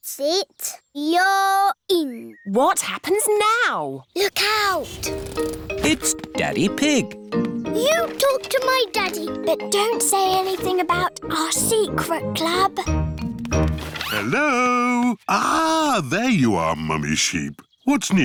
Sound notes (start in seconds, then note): none